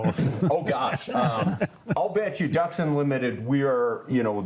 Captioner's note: laughs